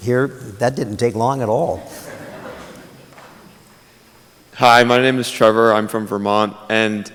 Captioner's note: laughter